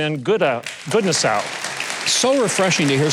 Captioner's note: audience applause